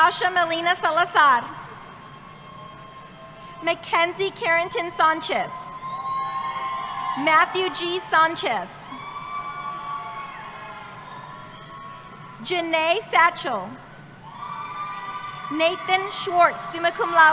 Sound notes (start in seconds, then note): 8.1 cheering